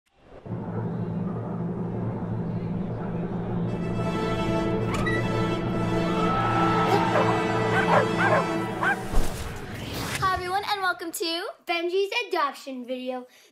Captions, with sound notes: - ( cheers and applause ) - ( dogs barking) - Hi, everyone and welcome to... - Benji's adoption video.